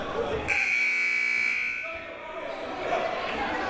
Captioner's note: buzzer